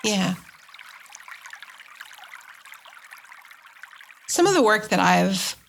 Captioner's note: water trickling